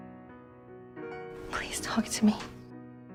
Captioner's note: voiceover